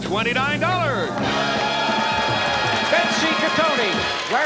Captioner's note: cheering and applause